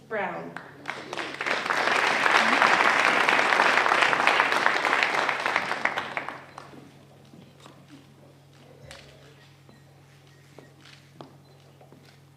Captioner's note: applause